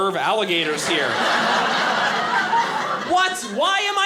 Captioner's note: audience laughing